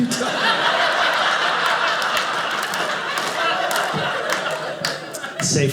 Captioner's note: audience laughing